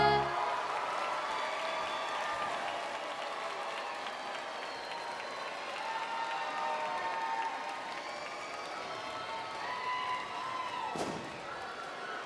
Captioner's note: applause and Cheering